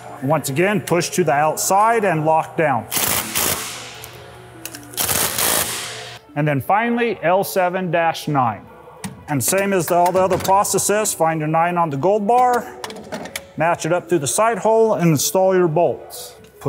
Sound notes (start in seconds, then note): 3.2 torque wrench buzzing